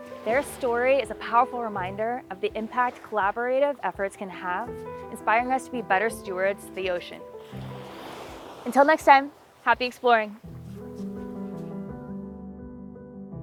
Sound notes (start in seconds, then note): 7.4 waves crashing; 10.3 mellow music